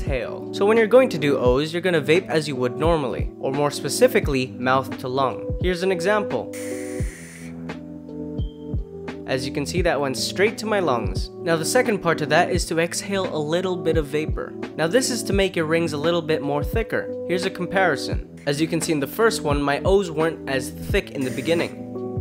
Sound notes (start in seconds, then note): 6.5 vape sucking noise